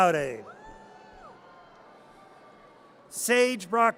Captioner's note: audience cheers